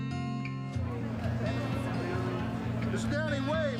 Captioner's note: crowd muttering